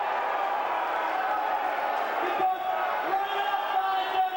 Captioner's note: crowd cheering